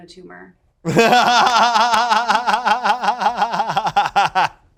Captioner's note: laughs